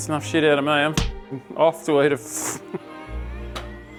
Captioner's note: laughing